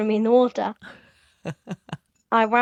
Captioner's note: laughs